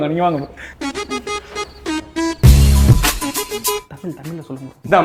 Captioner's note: chef whispers answers